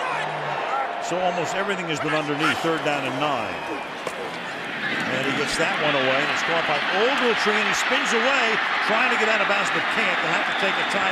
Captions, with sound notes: He does have the first down at the 45-yard line with 25 seconds to the half. Timeout, Dallas. [pa announcement]